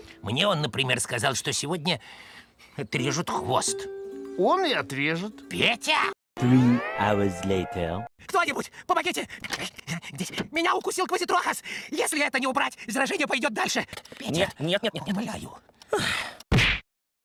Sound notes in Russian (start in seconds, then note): 15.8 вздыхает